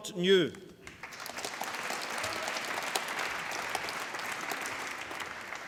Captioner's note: applause